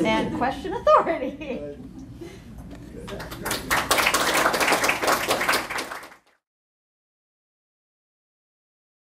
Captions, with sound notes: AND "QUESTION AUTHORITY." [LAUGHTER] >> RIGHT. [APPLAUSE]